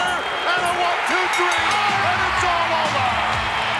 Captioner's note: bell dinging; upbeat music